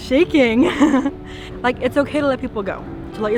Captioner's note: speaker laughs